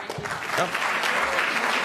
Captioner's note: applause